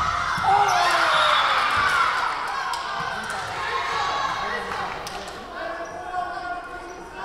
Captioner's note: crowd cheering; whistle blowing